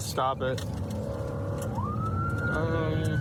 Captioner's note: siren blaring